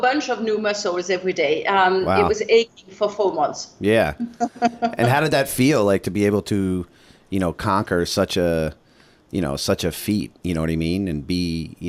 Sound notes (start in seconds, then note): 4.2 laughter